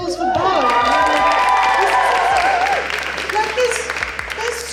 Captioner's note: audience Cheers